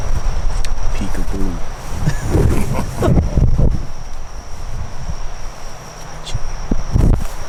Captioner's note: laughing